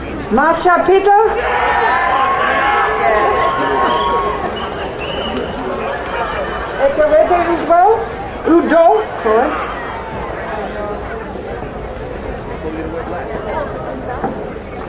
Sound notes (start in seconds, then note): 1.8 crowd cheering; 9.8 people chattering